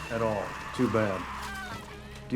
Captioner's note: background screaming